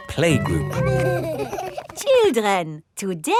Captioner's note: giggling